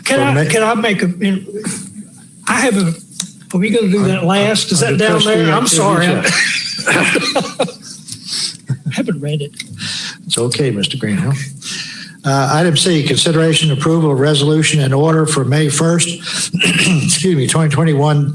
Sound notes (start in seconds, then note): 6.2 laughter